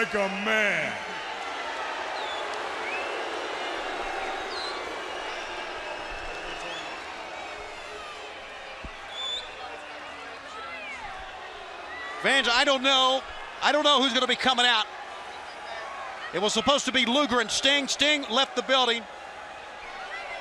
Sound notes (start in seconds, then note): 5.3 crowd cheering